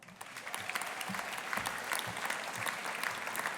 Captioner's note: audience applauding